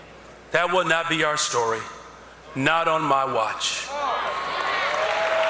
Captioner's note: cheers and applause